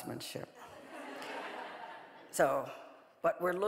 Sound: audience laughing

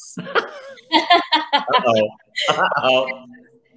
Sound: both laugh

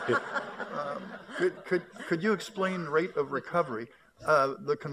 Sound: laughter

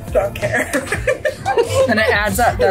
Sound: laughs

